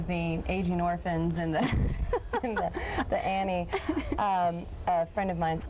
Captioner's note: laughing